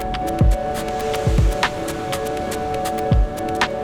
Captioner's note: upbeat music; waves crashing